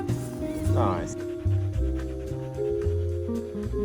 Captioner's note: heavy panting